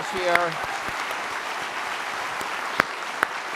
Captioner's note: applause